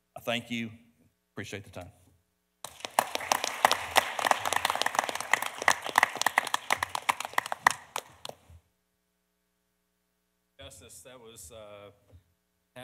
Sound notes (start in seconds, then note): 2.6 audience applauding; 2.6 panelists applauding